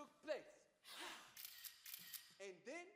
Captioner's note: all exhale loudly; camera clicks